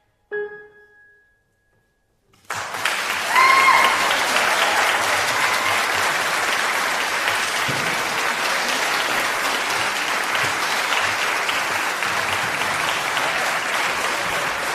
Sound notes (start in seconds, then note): 2.4 applause